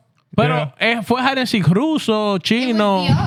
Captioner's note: speaking In Foreign Language